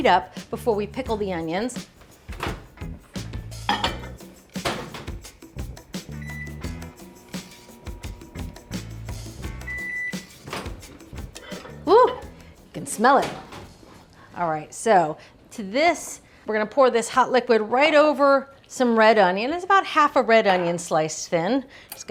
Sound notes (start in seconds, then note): 2.3 lively music continues; 6.2 microwave beeping